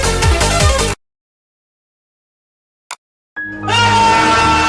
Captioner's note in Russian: Неловкая пауза